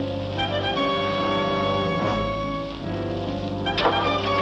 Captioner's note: engine ignites